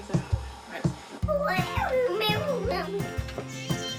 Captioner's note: babbles; music plays through earphones